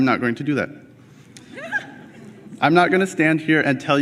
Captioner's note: laughter